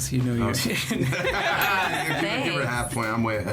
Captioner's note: all laughing